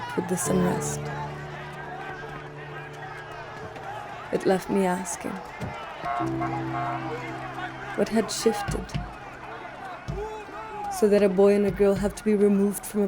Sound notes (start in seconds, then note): 1.8 crowd chanting